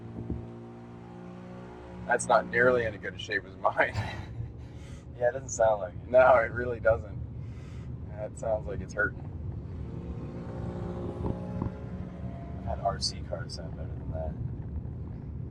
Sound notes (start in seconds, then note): 0.0 engine revving sounds; 5.2 both chuckle; 9.5 more engine revving sounds